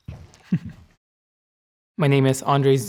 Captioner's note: laughs